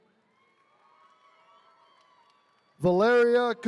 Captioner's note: attendees cheering